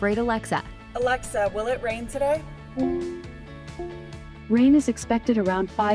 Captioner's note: Alexa bleeping